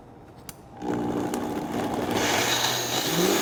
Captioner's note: blender sounds